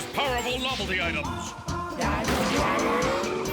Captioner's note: motorcycle engine revving